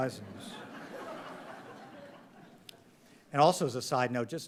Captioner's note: audience laughing